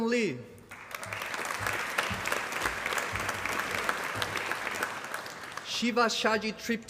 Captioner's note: applause